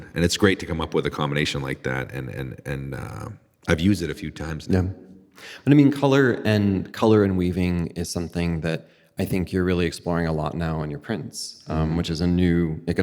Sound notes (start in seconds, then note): none